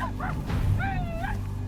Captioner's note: whooping